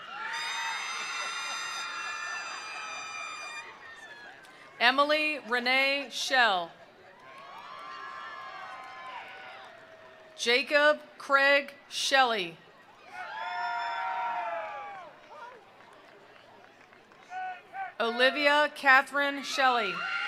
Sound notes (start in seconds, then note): 0.0 attendees cheering; 0.7 attendees applauding; 7.1 attendees cheering; 7.2 attendees applauding; 13.0 attendees cheering; 13.1 attendees applauding